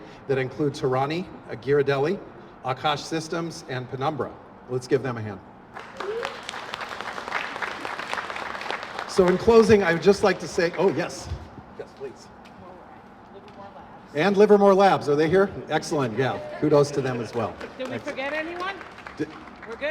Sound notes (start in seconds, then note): 5.7 applause